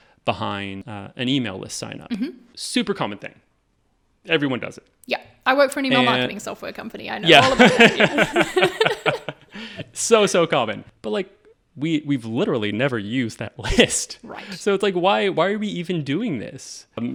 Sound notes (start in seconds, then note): 7.3 all laughing